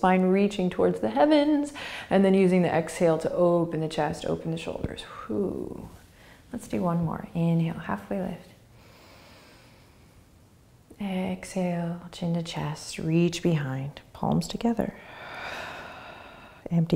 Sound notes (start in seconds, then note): 8.8 inhaling; 15.0 exhaling